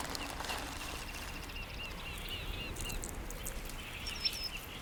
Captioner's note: birds chirping